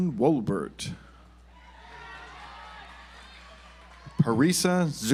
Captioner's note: audience applauds